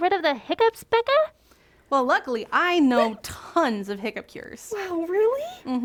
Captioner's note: hic